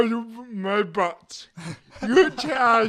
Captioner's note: laughs